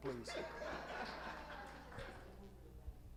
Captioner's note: audience laughing